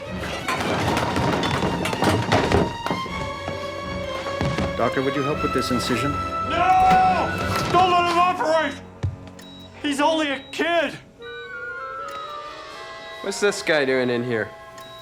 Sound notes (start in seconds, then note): 0.0 objects rumbling; 6.7 shouting